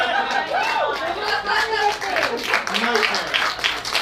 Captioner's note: applause